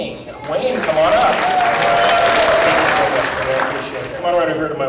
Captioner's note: applause